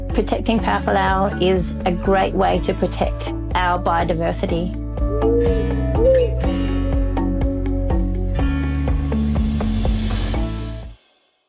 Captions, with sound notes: Protecting Powerful Owl is a great way to protect our biodiversity. (owl hooting)